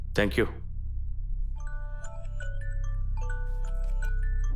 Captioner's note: phone buzzes